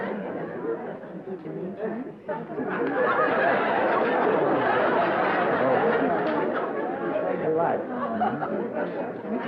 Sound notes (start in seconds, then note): 2.3 laughter